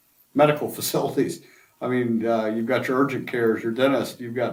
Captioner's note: laughs to self